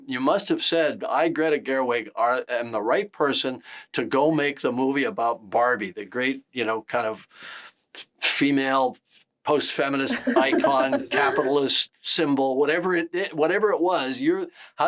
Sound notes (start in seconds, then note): 10.1 Greta laughs